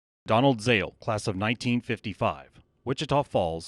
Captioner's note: voiceover